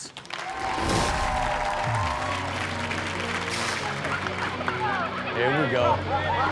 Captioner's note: audience cheers; upbeat rock music